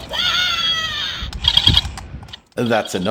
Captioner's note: robot yell!; robot clicks!